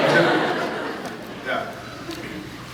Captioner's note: scattered laughs